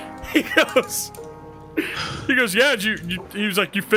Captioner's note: laughs